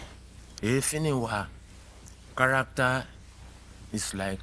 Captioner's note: speaking in foreign language